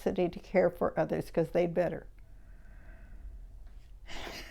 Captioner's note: laughs